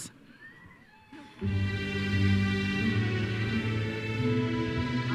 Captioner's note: audience member cheers